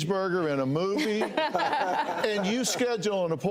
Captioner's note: hosts laugh